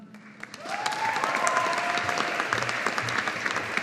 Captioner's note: audience applauding